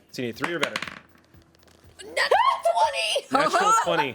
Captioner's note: dice rolls